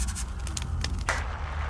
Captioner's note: eraser rasping; paper rustling; hands smacking and rasping